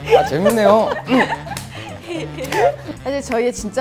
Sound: hahahahahahaha

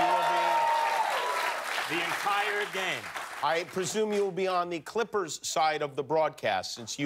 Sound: cheers and applause

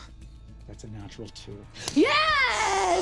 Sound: quietly

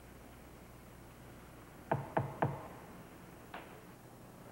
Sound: knock on door

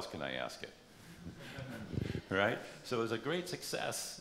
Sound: laughter

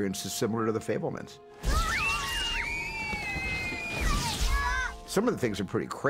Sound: children screaming

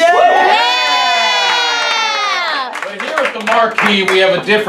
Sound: cheers

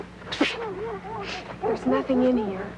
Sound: fake zapping noise

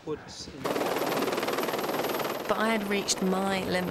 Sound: helicopter rotors

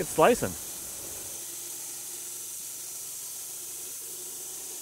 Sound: machine whirring

